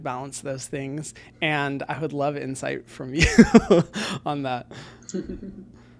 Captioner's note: laughs